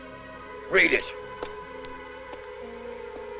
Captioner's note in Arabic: موسيقى مشوقة; خطوات قوية